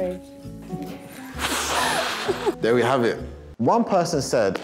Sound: blows

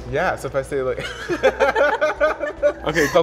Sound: laughs

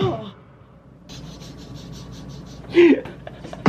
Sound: chuckles

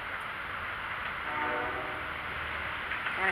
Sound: CSX Horn Whistle

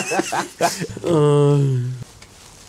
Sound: manly Sigh

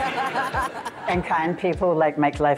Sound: audience laughter

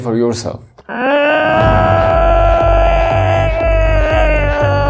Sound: Dinos groaning

